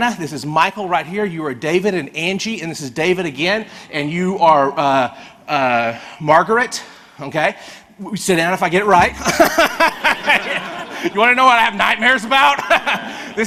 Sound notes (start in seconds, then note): 9.1 and audience laughs; 13.1 laughs